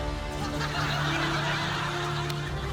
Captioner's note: dramatic music plays; laughter